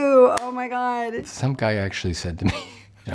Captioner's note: laughs